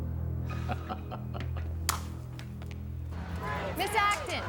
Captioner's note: laughing